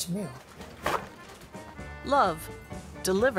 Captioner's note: paper towel torn off roll